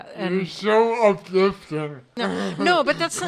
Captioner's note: laughs